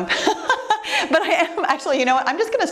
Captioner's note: laughs